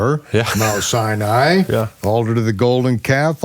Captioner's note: laughs